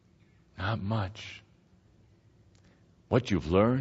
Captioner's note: none